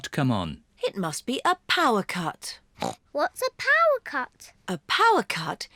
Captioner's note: grunts